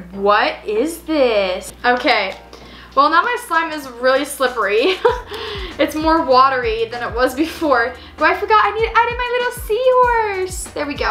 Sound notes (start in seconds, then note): 4.9 laughs